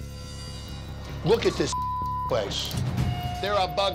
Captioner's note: intense music; beep